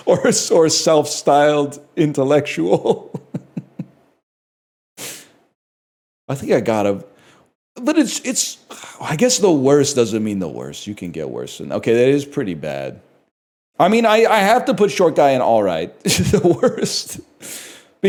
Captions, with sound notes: Or "self-styled intellectual." [Chuckles] I think I gotta... But it's... I guess the worst doesn't mean the worst. You can get worse. And, okay, that is pretty bad. I mean, I have to put short guy in "alright" [Laughs] "The worst."